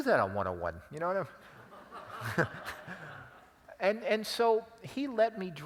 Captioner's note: laugh